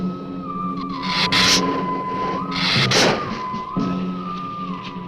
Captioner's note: lizard hissing